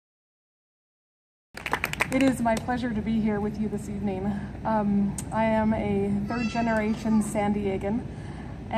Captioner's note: clapping